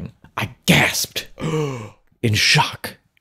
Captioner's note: gasps